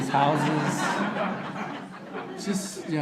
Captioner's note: audience laughter